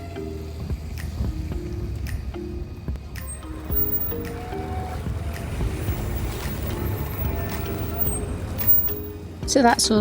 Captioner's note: tram Horn & Traffic Noise